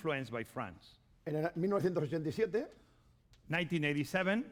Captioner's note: speaking spanish